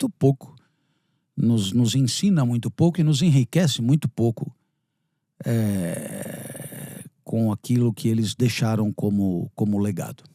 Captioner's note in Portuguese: gemido